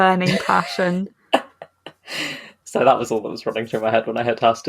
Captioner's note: laughs